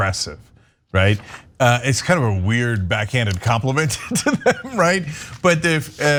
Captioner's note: laugh